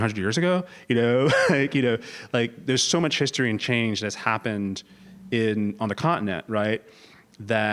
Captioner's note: laugh